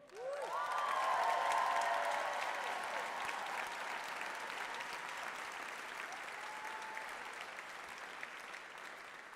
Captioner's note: applause, cheers